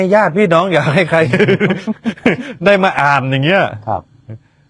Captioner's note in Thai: เสียงหัวเราะ